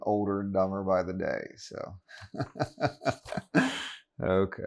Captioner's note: laughs